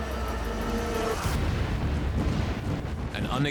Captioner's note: explosion echoes